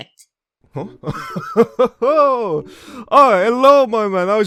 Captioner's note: laughs